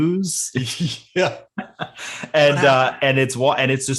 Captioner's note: both laughing